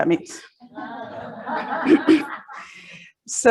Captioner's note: audience laughs